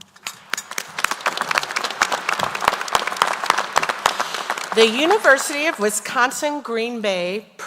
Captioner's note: applause